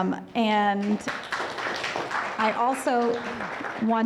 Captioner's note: audience applauding